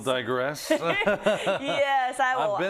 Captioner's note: laugh